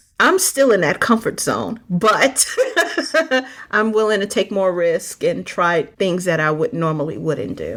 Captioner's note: laughing